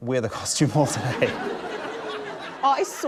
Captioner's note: laughter